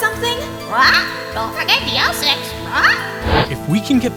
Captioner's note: squawk